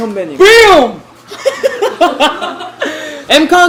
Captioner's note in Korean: 과 스태프의 웃음